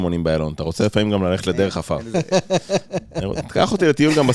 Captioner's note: laughing